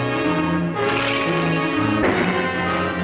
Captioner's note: bones clattering